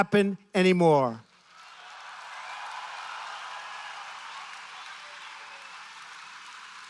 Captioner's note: applause